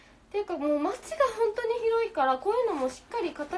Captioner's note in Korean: none